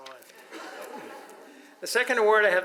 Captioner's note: audience laughs